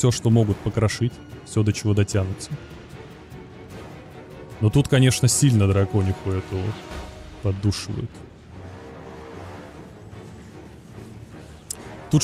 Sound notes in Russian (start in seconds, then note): none